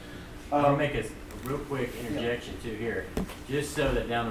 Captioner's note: voiceover